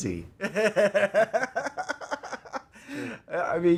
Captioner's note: laughs